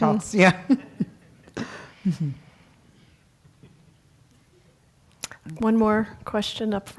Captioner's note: laugh